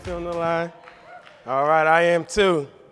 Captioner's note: audience claps